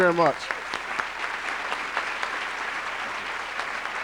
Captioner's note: applause